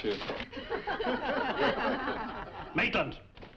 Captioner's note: students laughing